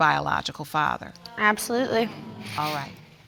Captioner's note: audience muttering